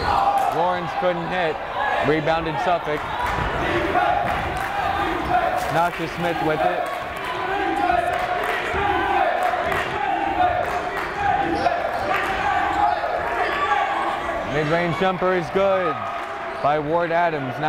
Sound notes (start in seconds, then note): 4.1 chanting; 8.0 chanting; 9.4 clapping